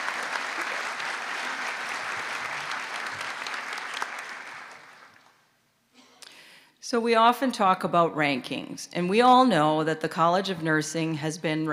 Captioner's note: applause